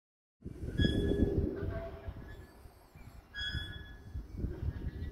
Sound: ominous creaking

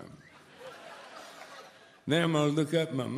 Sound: audience laughs

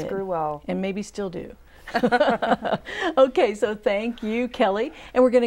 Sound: laughing

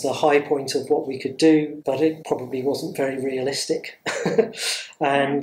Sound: laughs

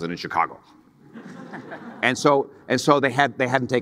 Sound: audience laughing

